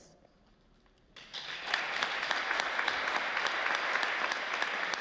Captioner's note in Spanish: Aplausos